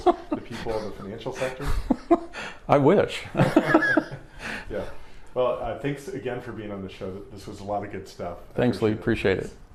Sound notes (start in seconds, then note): 3.3 both laughing; 3.4 laughing